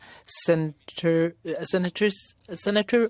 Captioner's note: speaking French